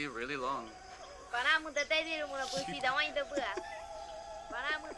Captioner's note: laughs